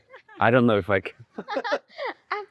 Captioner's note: laughing